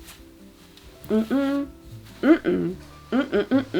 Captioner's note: hums